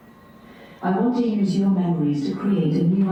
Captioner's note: AI Voice